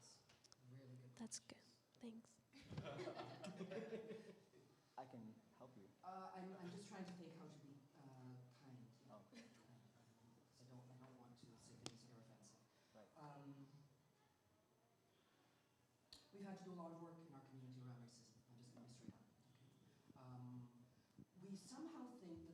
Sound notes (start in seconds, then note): 2.5 laughter